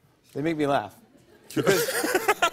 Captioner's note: laughter